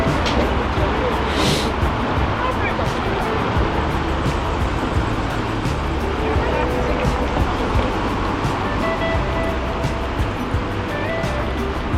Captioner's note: wind Blowing